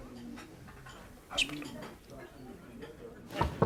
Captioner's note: knocking